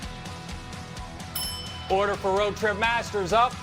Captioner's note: bell ringing